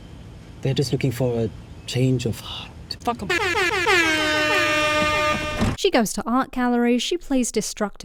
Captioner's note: klaxon